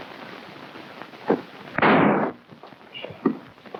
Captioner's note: gun firing